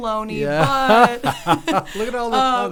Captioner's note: both laughing